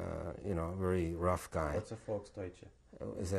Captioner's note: non-english